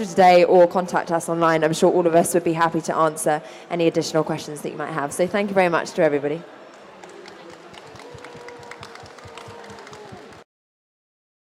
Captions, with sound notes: of today or contact us online I'm sure all of us would be happy to answer any additional questions that you might have so thank you very much to everybody [Applause]